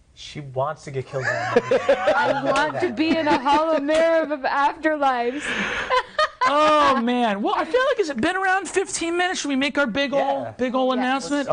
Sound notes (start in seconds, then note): 1.2 laughing; 5.2 laughing